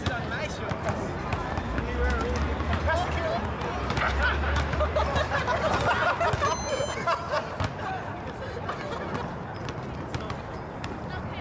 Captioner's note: people laughing in the background